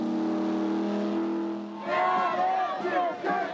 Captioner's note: boat whistle blows; cheering